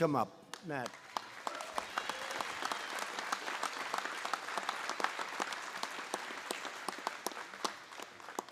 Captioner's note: applause